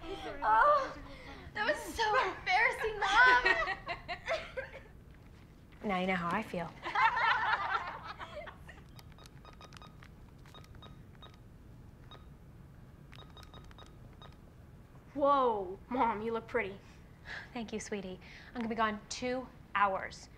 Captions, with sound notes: - Oh, that was so embarrassing mom. - Now you know how I feel. (loud laughter) (loud beeping) - Whoa, mom you look pretty. - Thank you sweetie. I'm gonna be gone two hours.